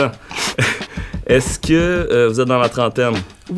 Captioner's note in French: petit rire